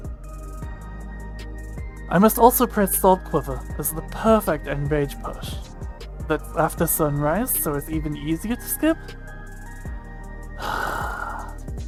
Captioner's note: loud sigh